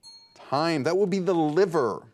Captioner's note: bell dings